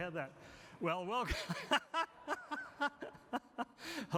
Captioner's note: laughs